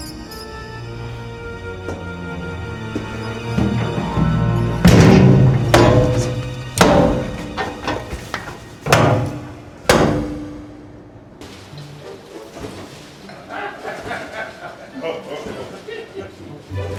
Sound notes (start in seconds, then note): 0.1 solemn music; 5.5 door latches clanking; 11.3 curious music; 13.1 people laughing